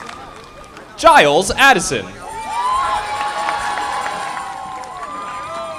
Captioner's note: audience applauding